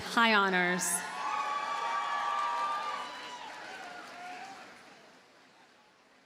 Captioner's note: audience cheers and applauds